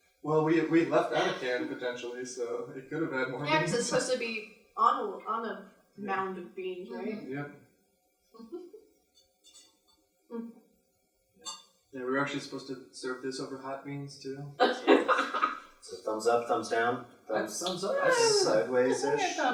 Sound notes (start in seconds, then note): 15.9 laughs